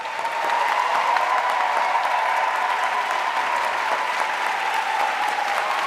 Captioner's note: audience cheering and applauding